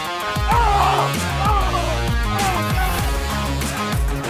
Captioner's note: man screaming